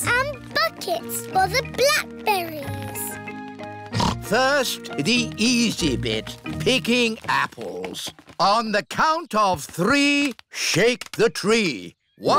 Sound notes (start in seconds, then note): 3.9 snorts